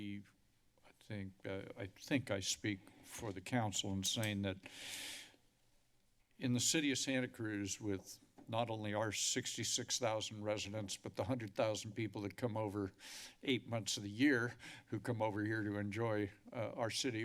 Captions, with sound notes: I think I speak for the council on saying that, [inhales] in the City of Santa Cruz with not only our 66,000 residents, but the hundred thousand people that come over 8 months of the year, who come over here to enjoy our city.